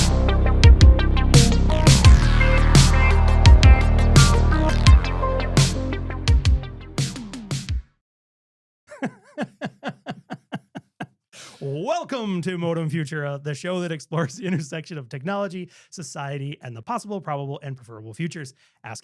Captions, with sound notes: (laughing) - Welcome to "Modem Futura," the show that explores the intersection of technology, society, and the possible probable and preferable futures,